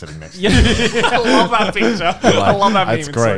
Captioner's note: laughing